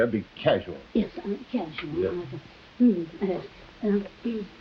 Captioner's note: whispering